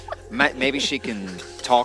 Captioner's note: giggles at Accent